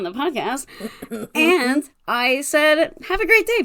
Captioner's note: laugh